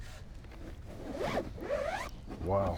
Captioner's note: tool zips in case